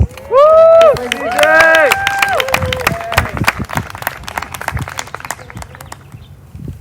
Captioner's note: applause